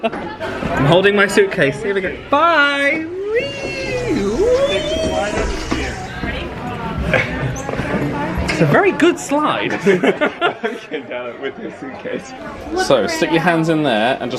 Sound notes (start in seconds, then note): 9.8 laughs